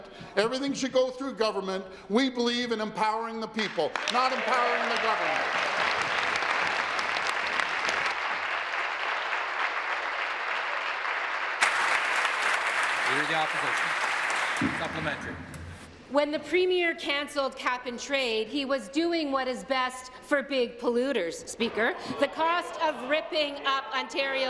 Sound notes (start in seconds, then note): 9.1 applause